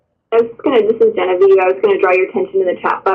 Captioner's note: voiceover